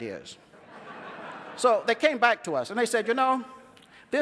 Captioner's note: laughter